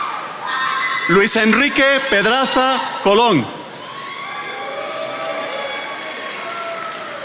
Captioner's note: attendees applauding